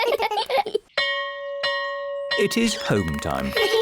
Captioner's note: all giggle; bell rings